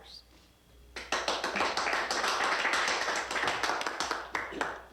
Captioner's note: crowd applauding